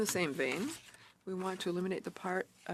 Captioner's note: speaking French